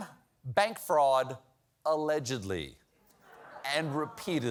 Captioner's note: laughter